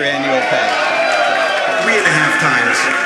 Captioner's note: applause